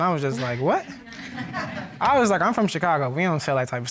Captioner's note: audience laughing